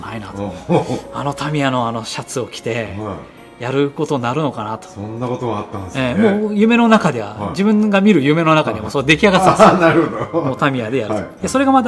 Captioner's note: laughs